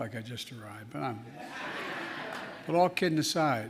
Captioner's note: laughter